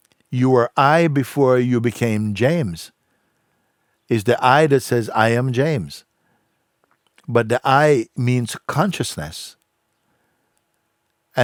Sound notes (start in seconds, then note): none